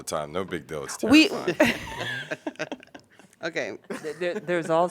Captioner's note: laughter